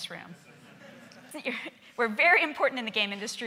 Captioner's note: laughing